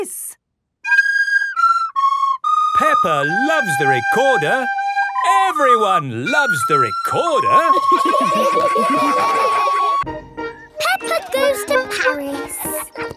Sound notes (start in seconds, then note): 0.2 playing theme song; 7.6 laughter